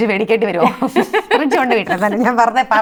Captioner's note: laughs